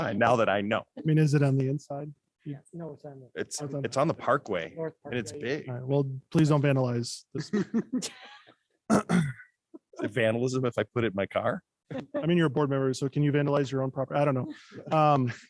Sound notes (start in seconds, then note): 7.3 laughter